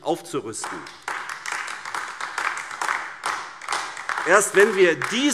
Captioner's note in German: Beifall AfD